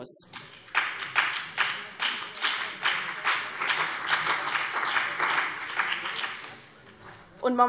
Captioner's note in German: Beifall BÜNDNIS 90/DIE GRÜNEN und vereinzelt CDU